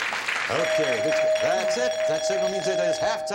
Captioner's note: bell chiming